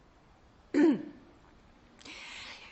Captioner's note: anneta clears throat